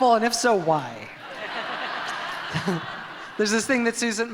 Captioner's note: audience laughs